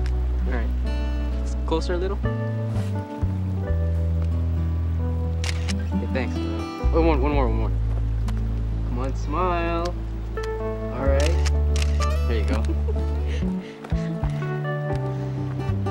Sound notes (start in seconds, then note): 5.7 click; 11.3 click, click; 13.7 laughs